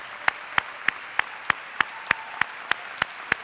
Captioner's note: applause